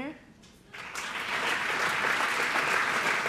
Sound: applause

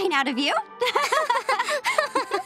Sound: laughing

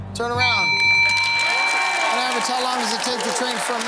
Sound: cheering and applause

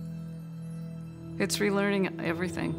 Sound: chimes chiming

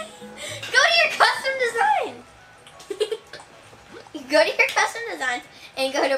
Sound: chuckles

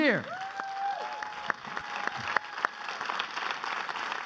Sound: crowd applauding

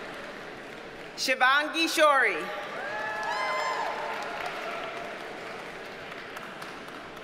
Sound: audience cheers and applauds

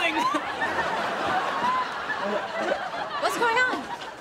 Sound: laughing

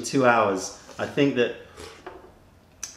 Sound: sips tea

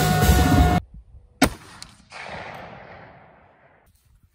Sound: gunshot

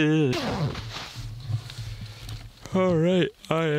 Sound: loud zipping

